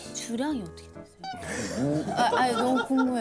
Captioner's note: awkward laugh